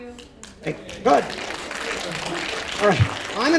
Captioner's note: audience applauding